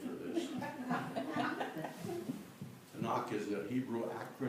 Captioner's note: laughter